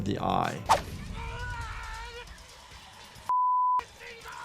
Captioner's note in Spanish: persona gritando